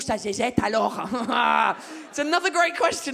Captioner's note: laughs awkwardly